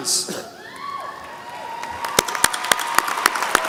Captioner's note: applause